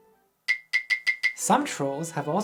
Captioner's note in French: ding ding ding